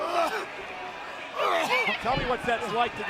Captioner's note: Batista coughing